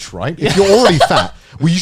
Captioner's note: chuckling